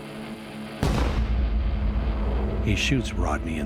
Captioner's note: gun fires